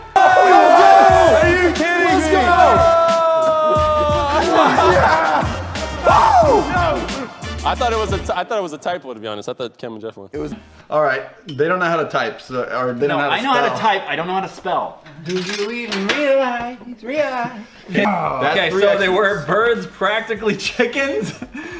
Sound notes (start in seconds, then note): 15.1 hums a song